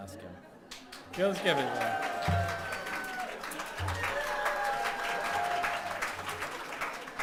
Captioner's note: clapping